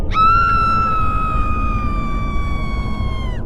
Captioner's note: scream